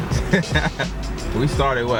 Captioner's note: laughs